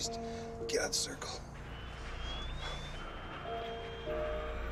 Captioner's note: shrill whistle